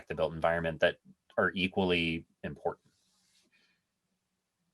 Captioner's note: none